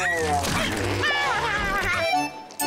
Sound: meowing

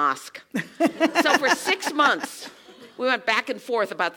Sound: laugh

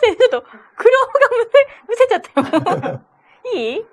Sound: laughs

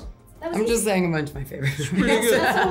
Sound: Emma laughs

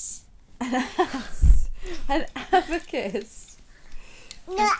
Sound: laughs

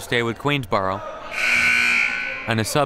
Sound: siren buzzing

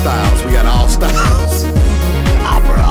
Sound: laughs

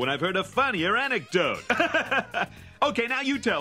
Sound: laughs

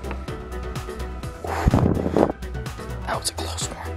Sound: exhales

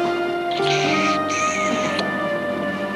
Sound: kissing sounds

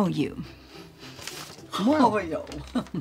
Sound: silly voice; chuckles

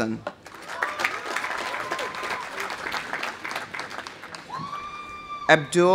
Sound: audience applauding; audience cheering

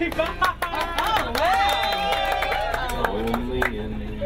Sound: cheers and applause; laughing

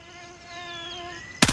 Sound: gunfire

